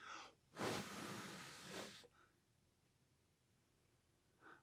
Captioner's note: blowing